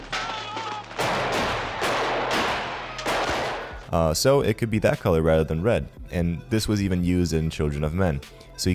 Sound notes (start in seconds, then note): 0.8 gun firing